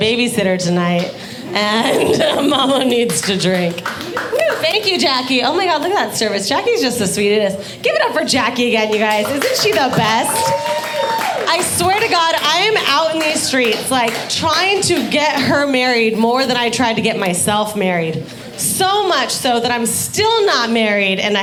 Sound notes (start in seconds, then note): 10.1 audience applauding